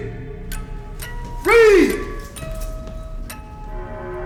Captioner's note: neck Snaps